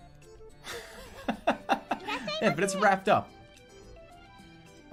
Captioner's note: laughing